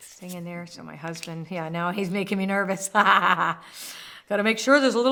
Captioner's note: laughs